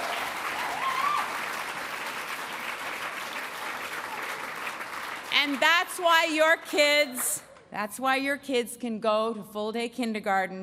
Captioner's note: applause